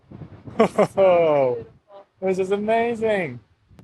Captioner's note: chuckles